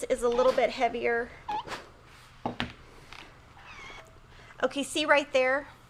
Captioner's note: steam iron squeaking